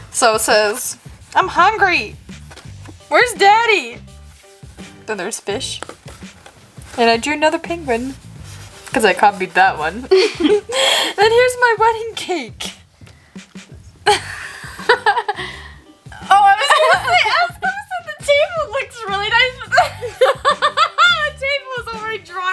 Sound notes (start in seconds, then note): 16.3 laughs